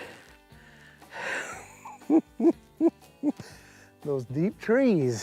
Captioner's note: laughs